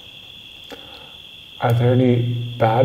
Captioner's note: crickets chirping